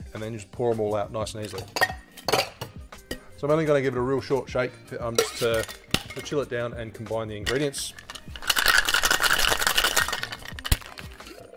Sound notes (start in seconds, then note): 1.4 ice clunking; 7.4 shaker clacking